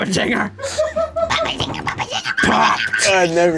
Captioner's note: screeches